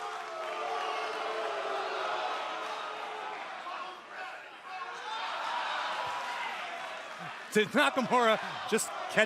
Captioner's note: cheers and boos